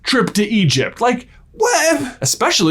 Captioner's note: exasperated noise